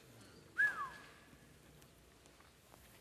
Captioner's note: whistles